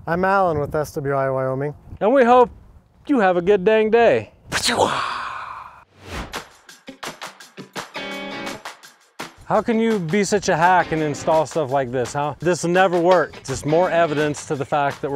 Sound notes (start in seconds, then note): 5.9 scene whooshing; 6.9 upbeat music